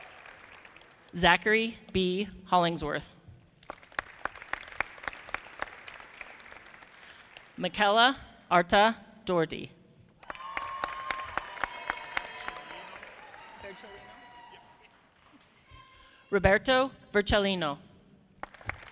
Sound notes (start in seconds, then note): 3.6 audience clapping; 10.2 audience applauding; 18.4 audience clapping